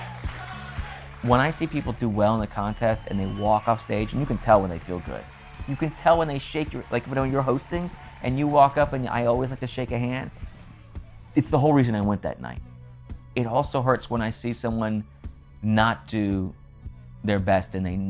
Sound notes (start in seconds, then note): 1.6 cheers begin to fade